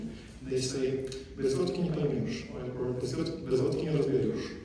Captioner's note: non-english speech